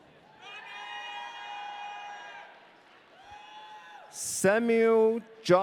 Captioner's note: audience cheering